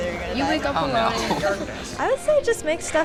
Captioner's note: laughs